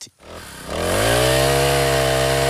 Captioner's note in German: Lautes Surren